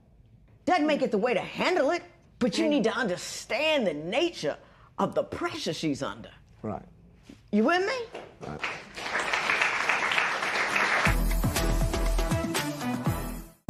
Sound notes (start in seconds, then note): 8.4 applause